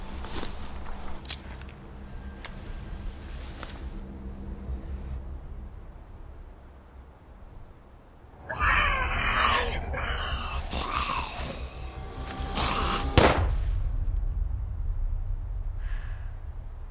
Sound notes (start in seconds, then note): 8.4 growl; 13.1 gun shot